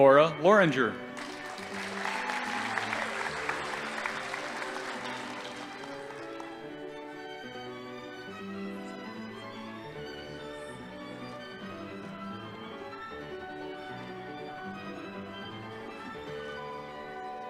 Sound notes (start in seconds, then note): 1.1 audience applauding